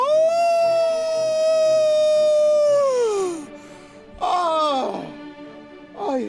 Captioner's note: Simon howls like a wolf